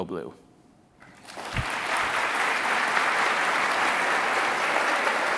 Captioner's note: audience applauding